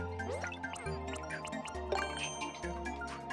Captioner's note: popping